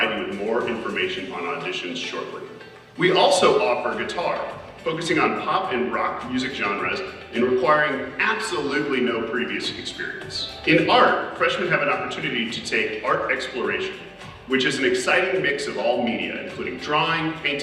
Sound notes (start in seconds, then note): none